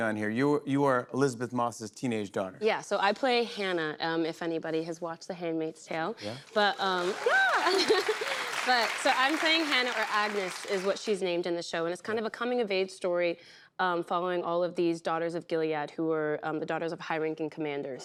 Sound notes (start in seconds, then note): 6.7 cheers and applause